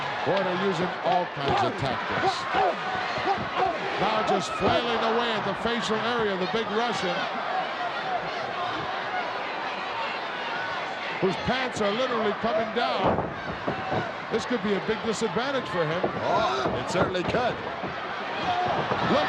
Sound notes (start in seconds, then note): 7.3 crowd yelling